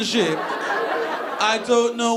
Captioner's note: audience laughing